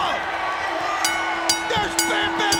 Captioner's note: bell dinging